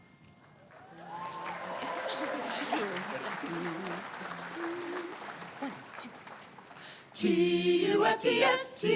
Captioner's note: applause